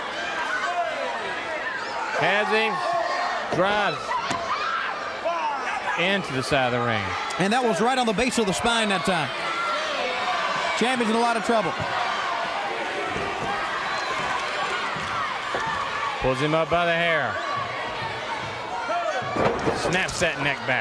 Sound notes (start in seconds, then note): 13.3 crowd chatter; 20.6 crowd chatter